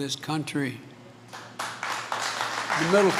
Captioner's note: applause